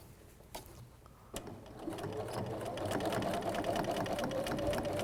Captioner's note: sound of sewing machine